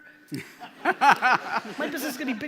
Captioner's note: laughing